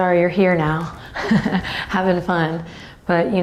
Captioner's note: laughs